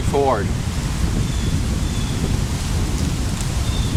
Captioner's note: wind Blowing Harder